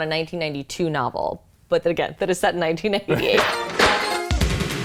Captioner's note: laughs